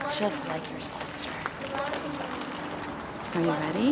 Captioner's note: chanting